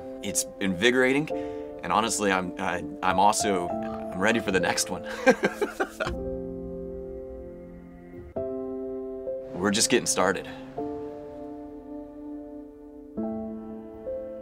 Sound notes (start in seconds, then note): 5.1 chuckling; 11.4 uplifting music